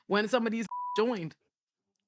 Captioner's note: beep